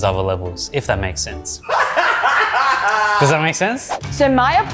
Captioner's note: laughs